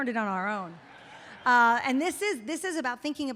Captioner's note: audience laughs